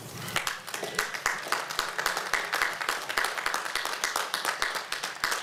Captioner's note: applause